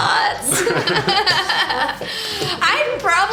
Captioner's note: laughter